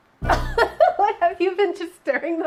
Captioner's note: laughs